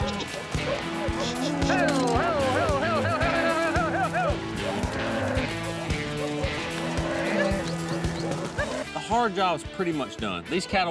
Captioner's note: all calling to cows